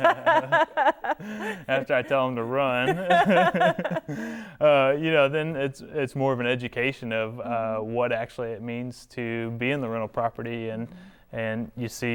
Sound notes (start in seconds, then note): 4.5 laughing